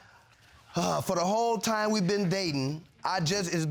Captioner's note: sighs